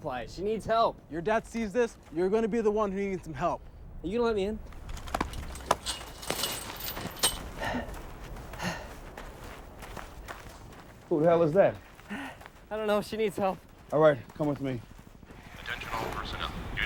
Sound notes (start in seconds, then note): 5.0 gate clanking; 5.3 man panting